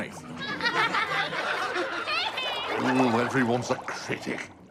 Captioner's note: fish laughing